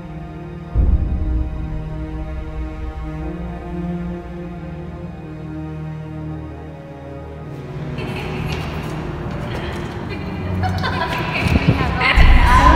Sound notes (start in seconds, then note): 9.5 emma joyfully giggles